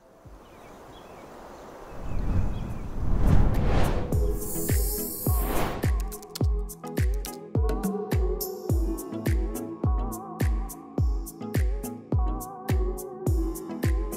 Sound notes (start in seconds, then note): 0.2 birds chirping; 3.9 upbeat music